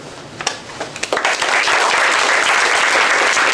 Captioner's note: applause